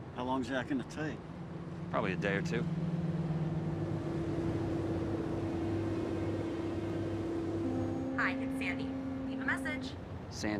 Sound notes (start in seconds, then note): 3.7 engine rumbling; 3.7 pensive music